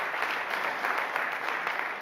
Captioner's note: applause